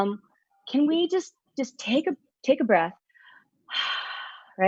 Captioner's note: breathes out